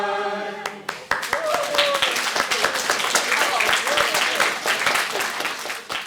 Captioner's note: clapping